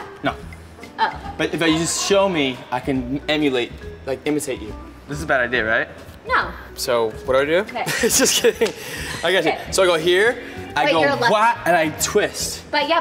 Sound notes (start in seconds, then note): 7.8 laughs